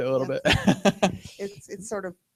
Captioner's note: laughter